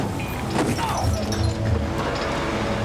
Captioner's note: grunting